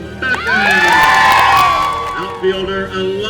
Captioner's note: cheering